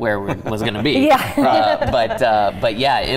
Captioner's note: laughing